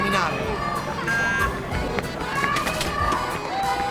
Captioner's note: kids still shouting; upbeat music still playing